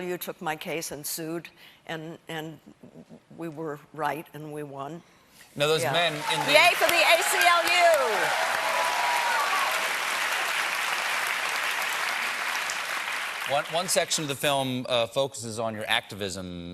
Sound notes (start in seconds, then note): 5.8 applause